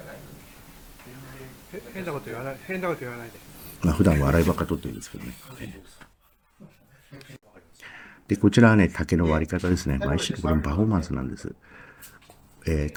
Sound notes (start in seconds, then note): 9.1 laugh